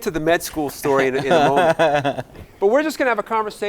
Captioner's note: giggling